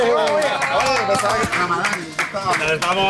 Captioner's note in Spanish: Aplausos